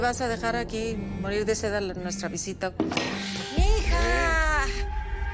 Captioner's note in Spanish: Vibra el celular